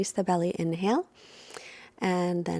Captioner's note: inhales deeply